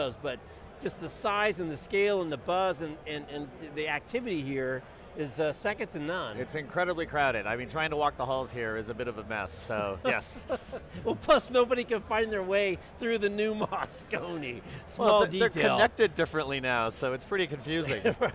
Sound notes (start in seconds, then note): 10.1 both laughing